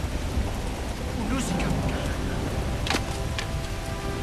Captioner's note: speaking native language